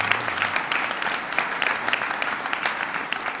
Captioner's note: applause